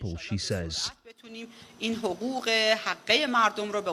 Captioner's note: foreign language